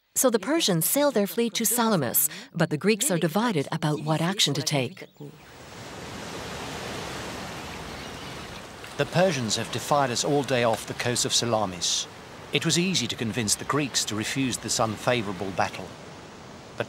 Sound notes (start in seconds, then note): 5.7 waves lapping